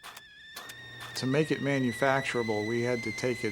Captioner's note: kettle whistling